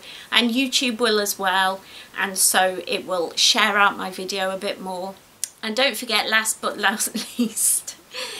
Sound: giggles

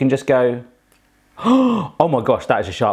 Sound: gasping

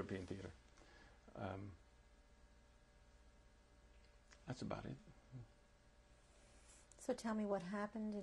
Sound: pauses for 3 seconds

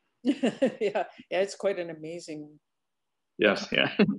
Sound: laughs

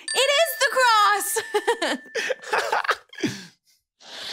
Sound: both chuckling

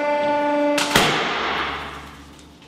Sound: explosion

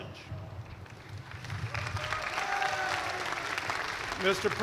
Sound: cheers and applause

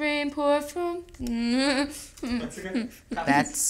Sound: whimpering

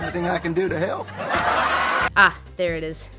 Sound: laugh track

